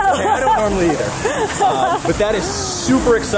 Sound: laughs

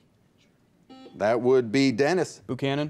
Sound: buzzer beeps

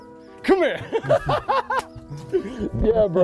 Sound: laughing

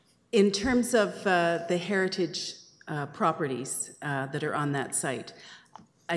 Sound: none

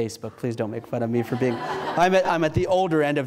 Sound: audience laughs

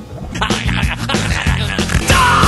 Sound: weasels roaring

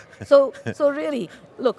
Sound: laughing

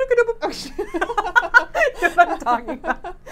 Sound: laughing

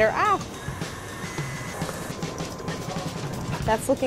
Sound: mixer whirring

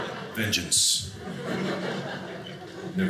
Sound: audience laughing

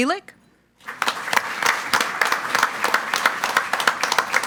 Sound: group applauding

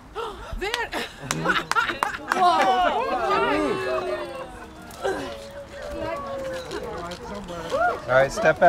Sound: group exclaims

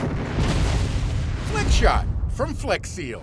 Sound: canon fires

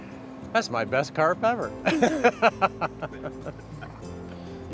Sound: laughs

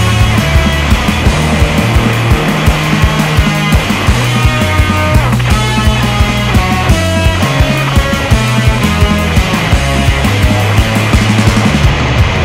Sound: jamming; wailing

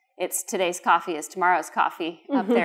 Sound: laughter

